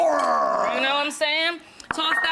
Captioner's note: grunts